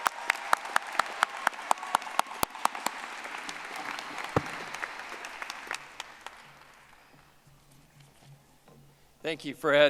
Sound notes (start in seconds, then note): 0.0 audience applauding